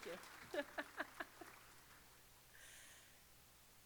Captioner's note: applause